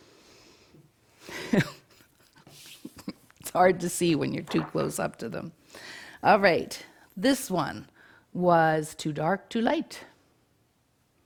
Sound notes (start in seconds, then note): 1.3 laughs